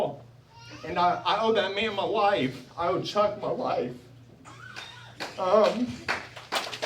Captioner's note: applause